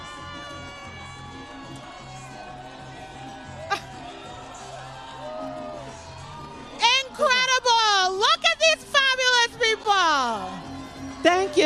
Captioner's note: applause